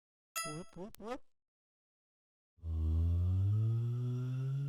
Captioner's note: barulho de vídeo game retrô